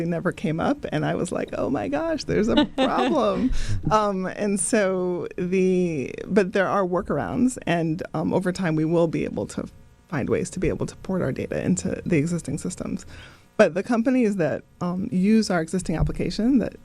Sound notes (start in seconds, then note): 2.4 laughing